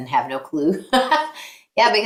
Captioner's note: laughing